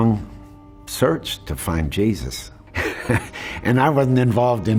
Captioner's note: laughs